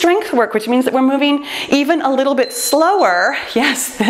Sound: timer beeps

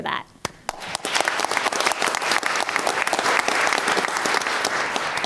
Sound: applause

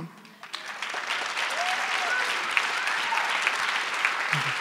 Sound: applause

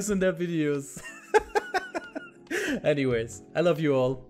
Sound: laughs

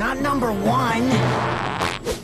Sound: farts

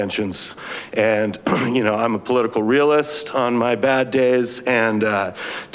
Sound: clears throat

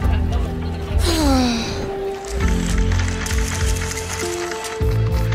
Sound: slow tempo music; Jordie sighs; camera clicks

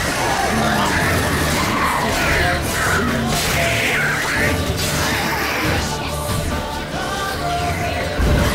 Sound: flames whoosh; slurp; flames crackle

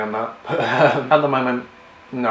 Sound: laughs

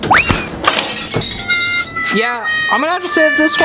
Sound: glass clattering

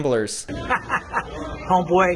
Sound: laughing

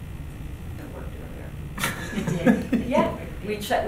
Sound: laughing

